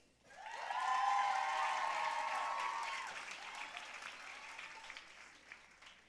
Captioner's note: audience cheering and applauding